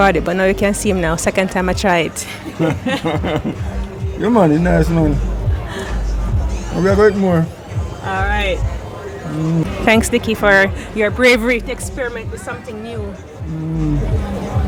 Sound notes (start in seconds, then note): 2.1 laughing